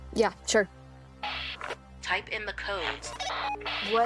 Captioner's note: radio bleep